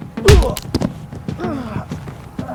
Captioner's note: groaning; grunt